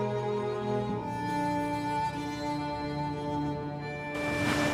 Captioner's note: none